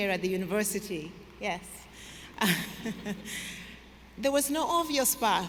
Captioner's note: laughs